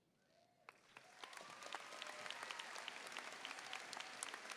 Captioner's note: audience applauding